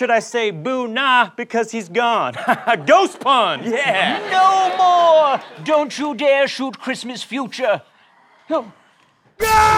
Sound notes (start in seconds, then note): 2.3 laughter